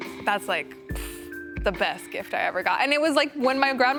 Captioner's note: blows between pursed lips